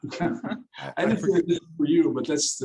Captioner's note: all laugh